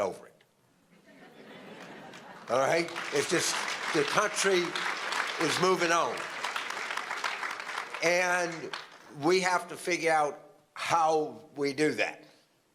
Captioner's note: applause